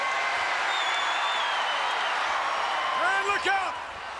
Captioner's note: crowd cheering